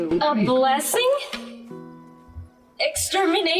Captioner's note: cans falling